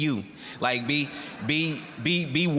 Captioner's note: audience laughing